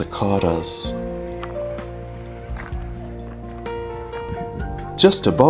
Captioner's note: cicadas buzzing